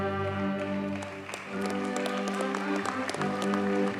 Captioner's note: audience cheers and applauds; triumphant orchestral music